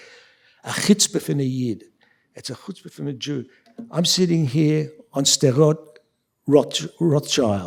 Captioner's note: speaking yiddish